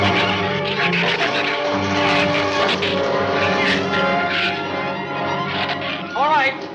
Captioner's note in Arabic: تزمجر الزبابة وتثرثر